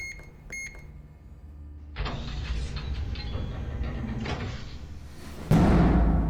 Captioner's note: beeping; metal bolt turning